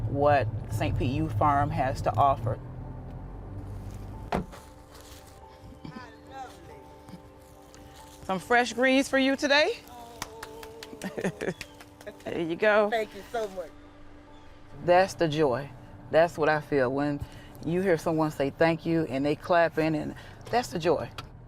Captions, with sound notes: what St. Pete Youth Farm has to offer. (soft music) (steps plodding) - I love it. - Some fresh greens for you today. - Oh. - There you go. - Thank you so much. - That's the joy. That's what I feel when you hear someone say thank you, and they clapping and that's the joy.